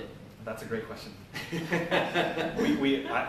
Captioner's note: laughter